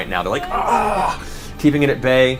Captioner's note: groans